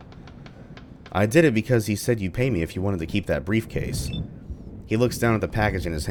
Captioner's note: thunder